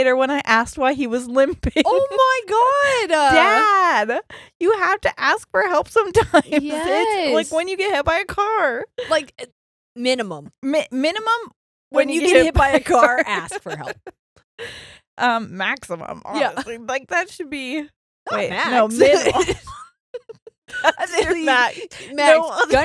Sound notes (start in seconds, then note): 18.3 murmurs; 18.9 laughing